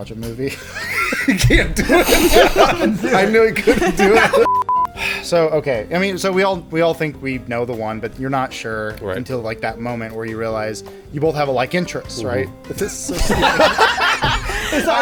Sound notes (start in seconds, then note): 0.4 laughter; 0.6 laughing; 4.4 beep beep; 5.3 sighs; 12.8 laughter